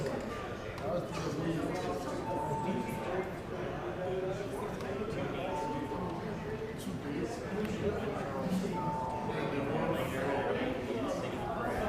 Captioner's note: bells ringing